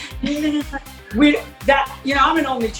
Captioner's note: both laugh